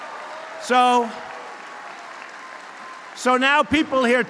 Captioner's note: applause